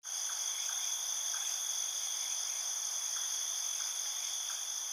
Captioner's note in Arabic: الصراصير النقيق